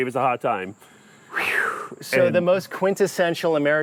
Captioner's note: exhales in disbelief